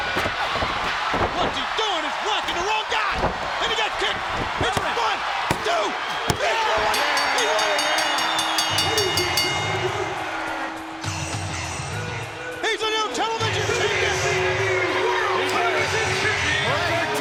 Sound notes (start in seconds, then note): 0.2 crowd shouting; 6.7 bell ringing; 8.2 crowd cheering